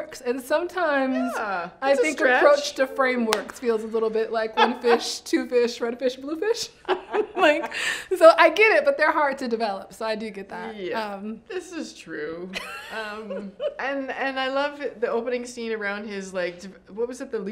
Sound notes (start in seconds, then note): 6.8 both laugh; 12.6 laughs